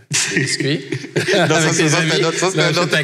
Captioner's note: laughs